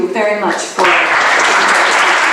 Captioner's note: audience applause